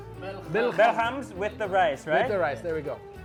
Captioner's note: speaking in foreign language; man speaking in foreign language; speaking in foreign language